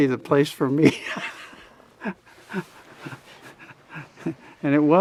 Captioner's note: both laugh